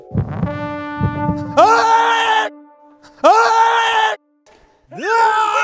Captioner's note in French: Crier avec une voix de baryton